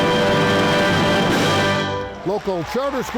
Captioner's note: audience clapping